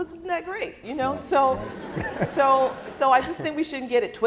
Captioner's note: laughing